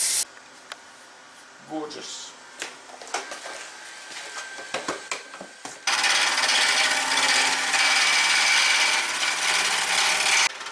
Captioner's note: noise of woodturning lathe and woodturning